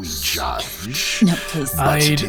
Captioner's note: wincing; purring